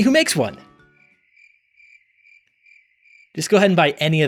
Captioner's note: crickets